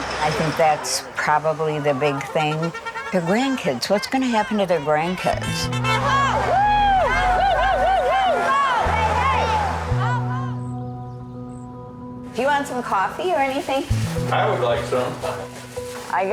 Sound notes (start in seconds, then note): 7.6 pensive music; 7.6 protesters clamoring